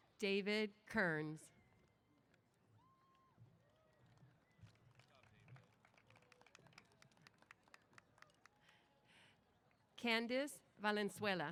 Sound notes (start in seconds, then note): 3.6 applause